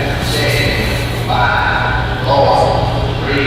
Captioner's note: dramatic count down, bomb explosion